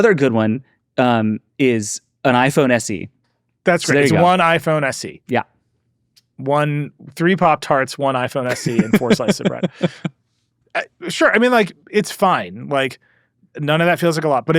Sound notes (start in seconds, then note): 10.0 laughs